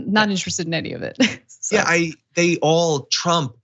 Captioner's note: laugh